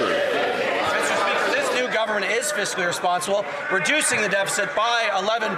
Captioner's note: some Applause